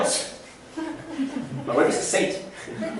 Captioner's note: laughter